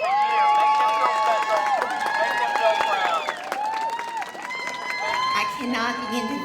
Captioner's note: cheers and applause